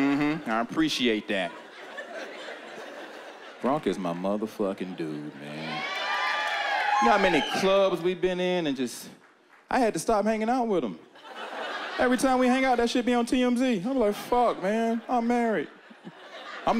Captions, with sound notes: Mm-hmm, I appreciate that. Gronk is my motherfucking dude. (cheering) You know how many clubs we've been in and just... I had to stop hanging out with him. Every time we hang out, that shit be on TMZ. I'll be like, fuck, man. I'm married.